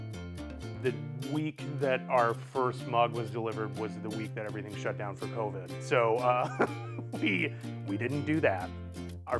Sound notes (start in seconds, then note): 6.2 laughs